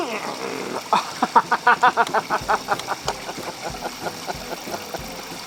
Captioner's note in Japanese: 笑い